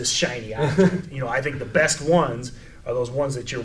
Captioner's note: laughs